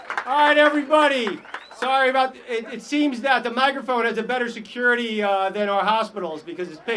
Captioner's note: applause